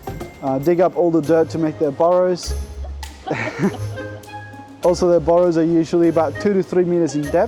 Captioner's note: laughing